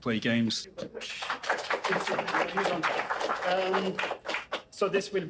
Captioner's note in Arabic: الجمهور يصفق